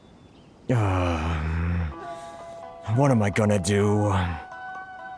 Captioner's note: whimpering